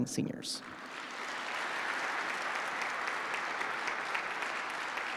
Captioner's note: participants applauding